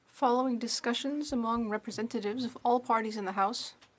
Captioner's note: speaking French